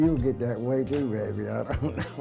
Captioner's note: chuckles